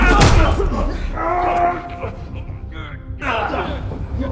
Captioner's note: lee grunting